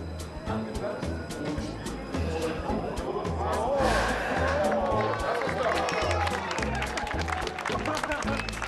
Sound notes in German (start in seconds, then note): 1.9 Durchsage im Hintergrund; 4.6 Applaus